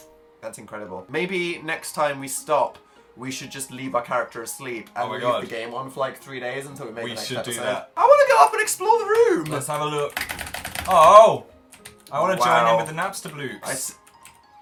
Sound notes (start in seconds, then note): 8.2 frantic keyboard clicking